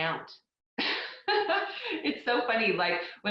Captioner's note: laughs